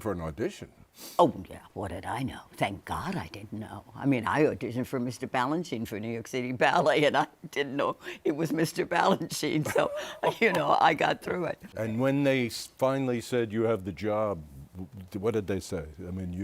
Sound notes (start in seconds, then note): 9.6 chuckles